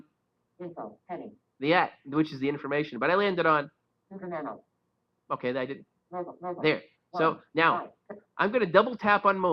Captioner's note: Siri talking